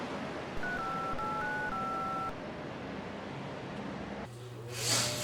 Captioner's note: phone dial beeping; man sniffling